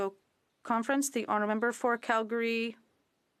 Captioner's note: speaking French